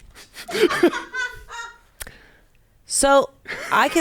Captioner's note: everyone laughs